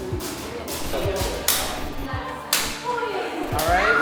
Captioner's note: whip cracking